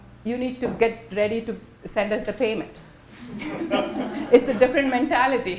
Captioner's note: laughter